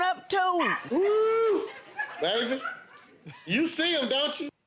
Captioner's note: exclaims